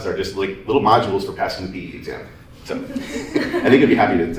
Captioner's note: laughter